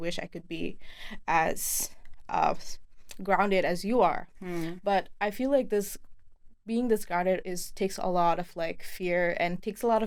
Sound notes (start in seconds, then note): none